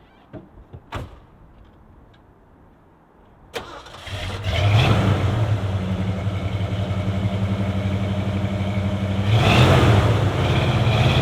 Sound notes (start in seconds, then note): 3.5 engine starts; 4.0 engine revving